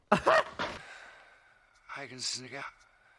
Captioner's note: sighs